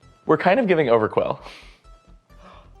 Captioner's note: gasp